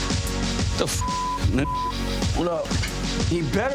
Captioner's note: beep